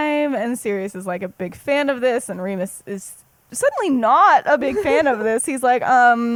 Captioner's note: laughs